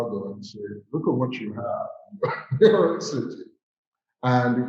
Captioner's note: laughs